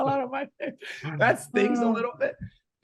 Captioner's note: laughing